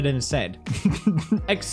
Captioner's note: laughs